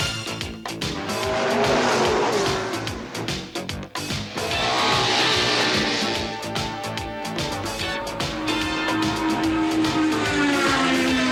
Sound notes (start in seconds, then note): 0.3 rock music; 1.6 car engine revs; 4.8 motorcycle engine revs; 7.8 race car accelerating